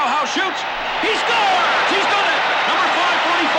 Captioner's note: crowd roaring